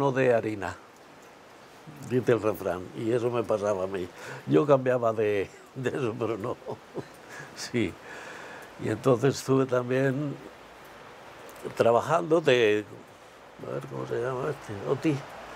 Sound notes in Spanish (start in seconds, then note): 5.7 ríe